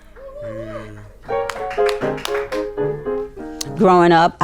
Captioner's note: people clap